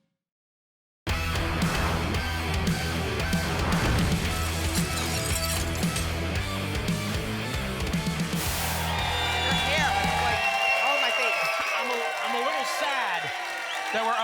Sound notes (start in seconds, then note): 4.0 shattering glass; 7.6 applause and cheering